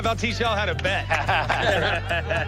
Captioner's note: laughter